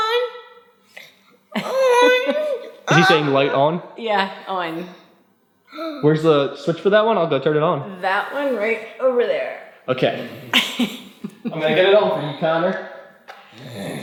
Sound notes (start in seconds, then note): 2.8 vocalizing